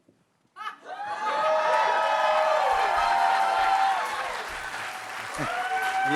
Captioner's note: cheers and applause